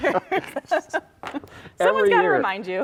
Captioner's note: laughing